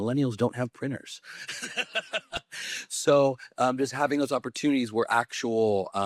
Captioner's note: laughs